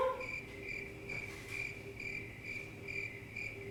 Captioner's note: crickets chirping